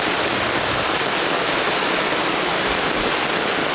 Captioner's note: rain